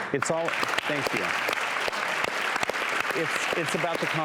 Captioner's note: applause